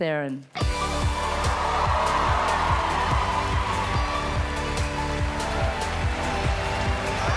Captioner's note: cheerful music; audience cheering